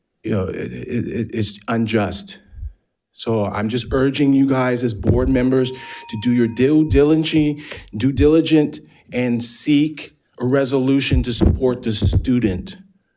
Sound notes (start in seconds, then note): 5.2 bell ringing